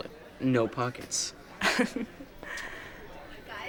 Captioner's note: laughs